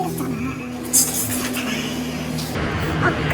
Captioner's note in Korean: 수군수군